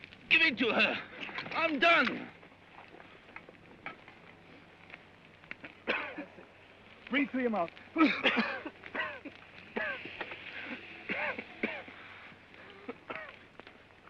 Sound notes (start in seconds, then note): 5.8 coughs; 8.9 coughs; 10.6 coughing